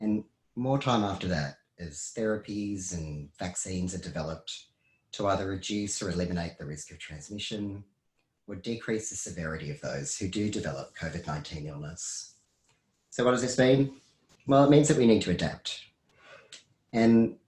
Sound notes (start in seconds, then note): none